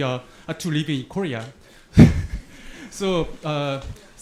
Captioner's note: laughs